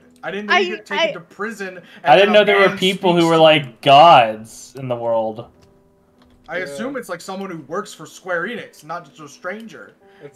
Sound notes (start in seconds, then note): none